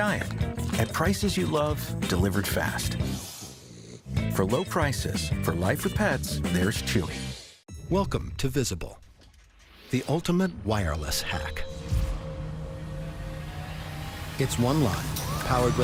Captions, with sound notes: or any diet. At prices you love. Delivered fast. [dog snoring] For low prices. For life with pets, there's Chewy.